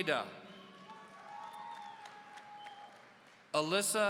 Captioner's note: audience cheering